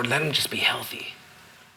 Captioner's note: none